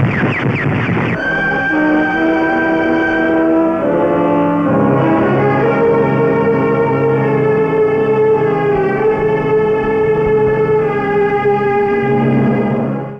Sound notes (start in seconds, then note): 0.9 sirens blare